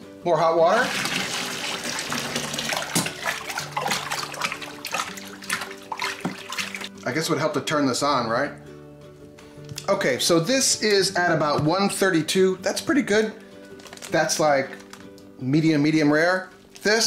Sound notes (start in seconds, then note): 0.7 water splashing; 4.2 gentle music